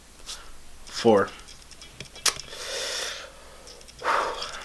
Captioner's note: sighs